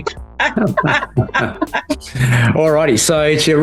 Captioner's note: both laughing